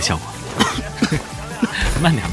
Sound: coughs

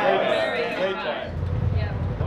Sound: all agreeing

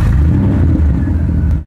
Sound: car engine revs

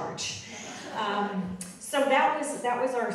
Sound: audience laughing

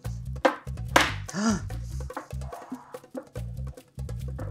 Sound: gasps

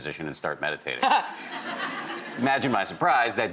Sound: laughing

